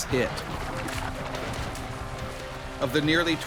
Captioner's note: splashing